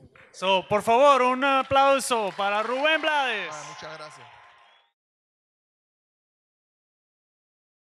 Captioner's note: audience applauds; speaks in Spanish